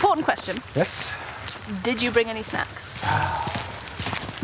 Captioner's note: sighs